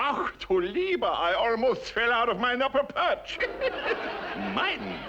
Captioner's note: German accent; laughs